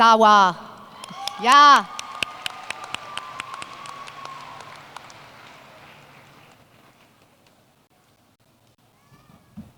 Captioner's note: applause